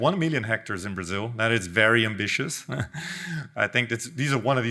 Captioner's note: chuckles